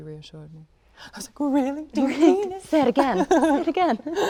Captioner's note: laughs